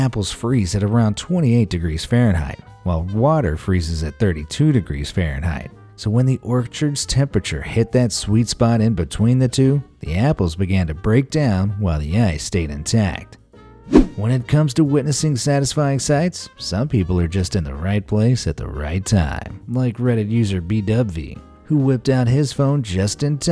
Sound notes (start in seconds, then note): 13.9 whoosh